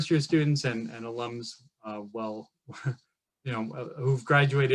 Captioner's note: laughs